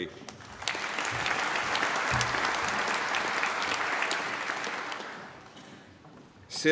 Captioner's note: applause